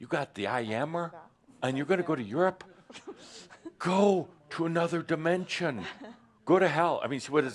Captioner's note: laughter